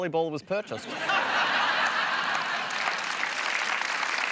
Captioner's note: laughter